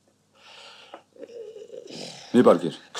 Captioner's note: yawn